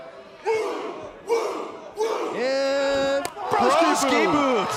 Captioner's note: fans chanting